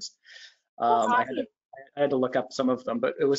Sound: murmurs

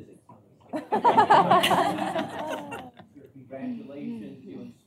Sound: laughter

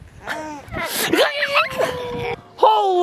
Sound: laughing

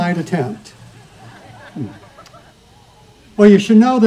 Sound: laughter

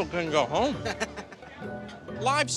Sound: laughs

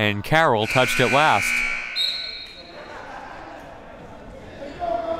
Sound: siren buzzing

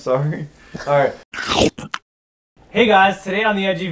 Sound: chomping

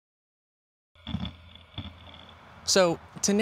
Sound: grinding

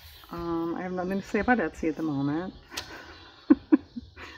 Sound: laughs

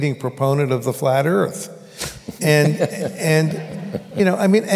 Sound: laughter

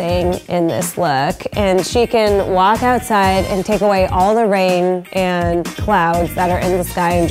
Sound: none

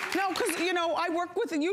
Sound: applause

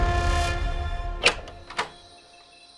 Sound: door creaks

